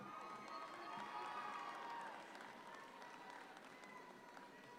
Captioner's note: audience cheer